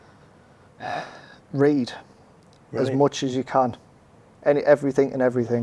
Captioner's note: sighing